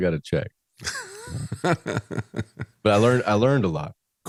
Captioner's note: laughs